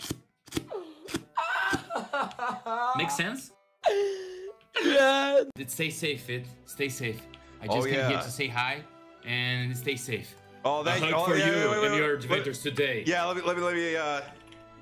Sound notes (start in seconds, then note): 1.4 laughs, almost sounding like he's crying; 4.0 still laughing; 4.9 through laughter; 11.4 deep voice